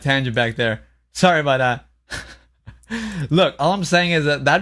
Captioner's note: laughs